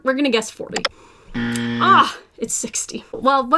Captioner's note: buzzer buzzes